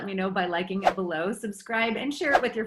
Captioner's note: air whooshes